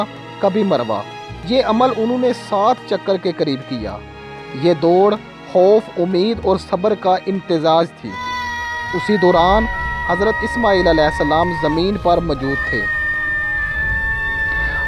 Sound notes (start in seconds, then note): 8.0 screaming